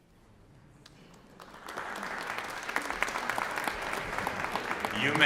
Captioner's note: applause